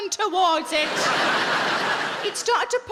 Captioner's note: audience laughing